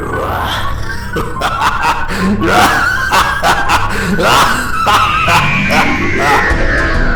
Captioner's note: laughter